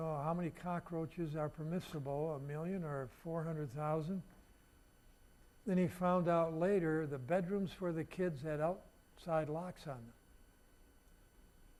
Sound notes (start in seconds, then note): none